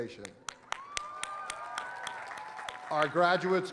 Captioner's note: applause